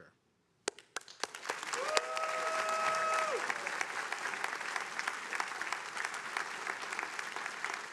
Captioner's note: attendees applauding